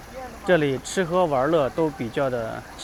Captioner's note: 英语; 英语